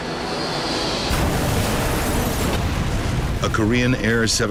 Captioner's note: plane crashes